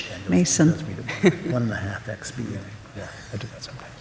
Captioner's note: overlapping chatter